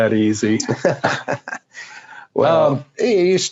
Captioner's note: laughing